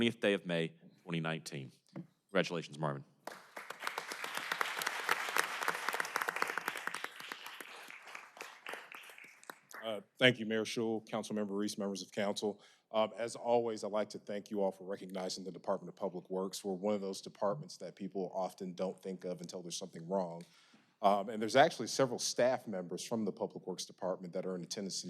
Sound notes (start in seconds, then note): 6.7 applause